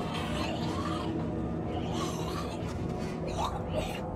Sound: raspy snarling

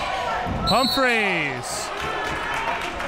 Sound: whistle blows

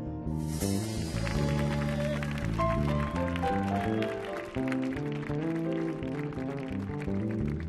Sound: audience applauding; audience cheering

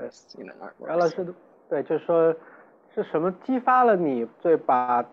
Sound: Mandarin

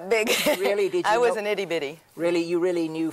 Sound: chuckles

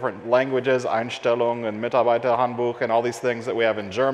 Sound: speaks in foreign language

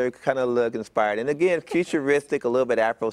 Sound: laughter

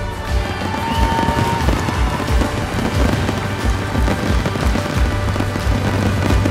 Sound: people cheering; fireworks popping

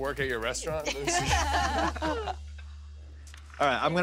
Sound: laughter

